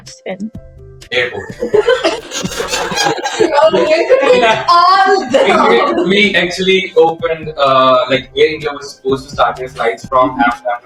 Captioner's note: laughter